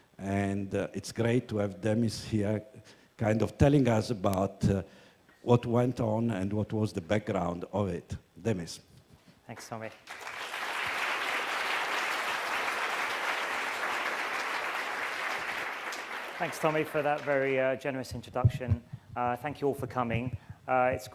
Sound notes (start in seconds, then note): 9.6 applause